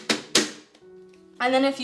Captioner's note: more banging